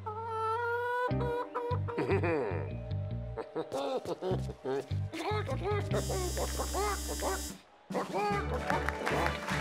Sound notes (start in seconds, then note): 0.4 clucking softly; 1.9 chuckles deviously; 5.5 imitating chicken clucking